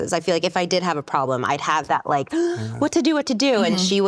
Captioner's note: gasp